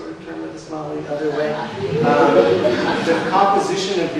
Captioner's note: audience laughs